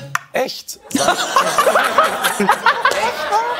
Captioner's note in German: Gelächter